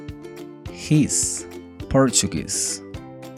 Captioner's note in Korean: 포르투갈어